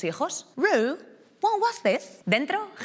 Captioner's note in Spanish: habla en inglés